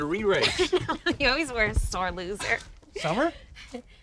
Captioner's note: laughs